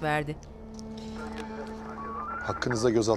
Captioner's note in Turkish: Telsiz sesi